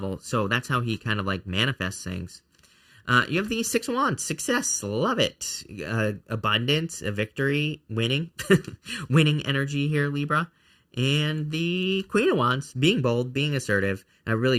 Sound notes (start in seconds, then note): 8.5 laughs